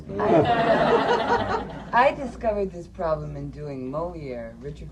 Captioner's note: laughter